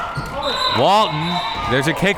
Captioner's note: whistle tweeting